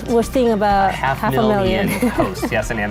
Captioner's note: laughs